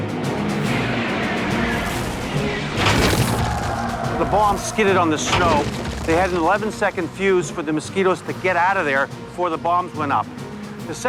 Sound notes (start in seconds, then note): 0.6 jet engine roaring; 2.8 bomb thuds